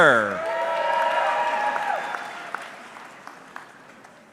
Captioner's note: audience cheering